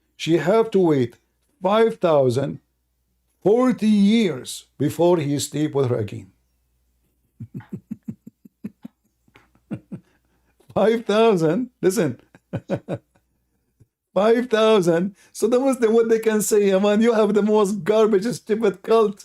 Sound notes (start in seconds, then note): 7.3 Ketawa